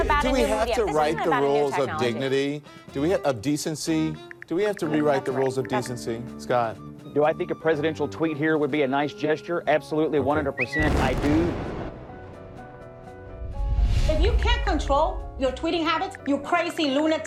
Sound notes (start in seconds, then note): 10.7 explosion booming